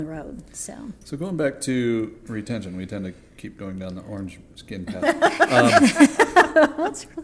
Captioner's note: laughter